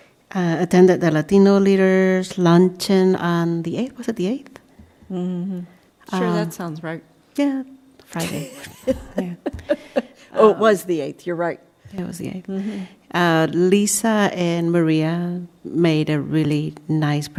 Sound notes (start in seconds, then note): 5.2 laughter